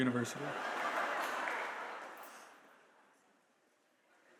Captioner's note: audience laughs